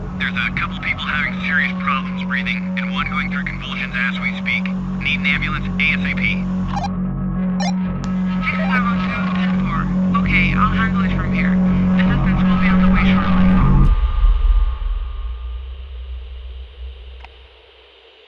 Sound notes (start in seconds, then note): 7.6 walkie talkie beeps; 7.6 walkie-talkie beeps; 13.9 VHS glitch; 13.9 static; 17.1 switch click